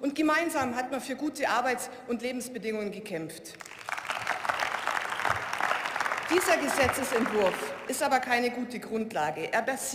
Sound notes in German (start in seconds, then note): 3.6 Beifall